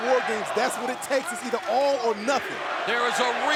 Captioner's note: fans chanting